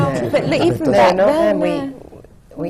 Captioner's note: laughter